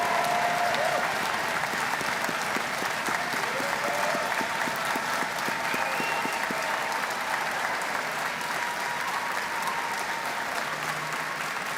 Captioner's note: cheers and Applause